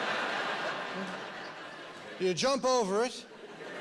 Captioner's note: laughter